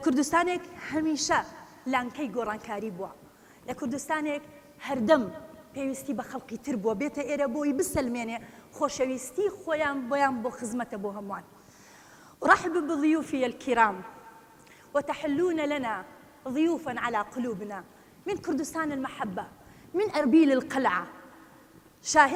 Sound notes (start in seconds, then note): 12.9 speaking Arabic